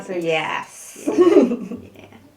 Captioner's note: laughter